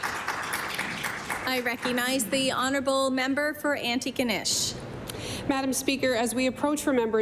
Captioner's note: applause